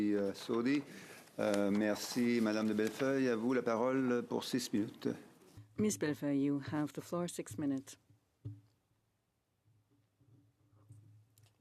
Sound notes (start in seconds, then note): 7.1 speaking French